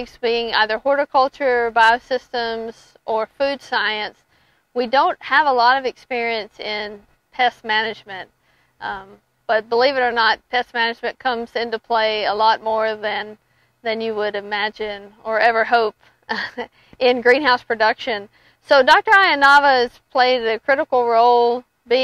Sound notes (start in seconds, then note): 16.3 chuckles